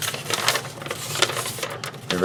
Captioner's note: paper rustling